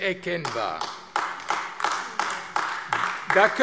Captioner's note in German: Beifall AfD